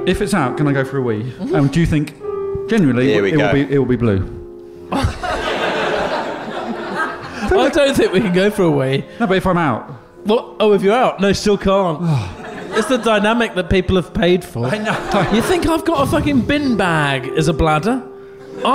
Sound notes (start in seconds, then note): 4.9 chuckling; 12.0 sighs